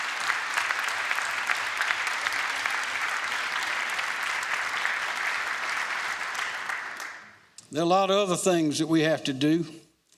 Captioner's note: applause